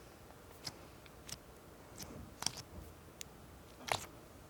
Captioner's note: slime squishing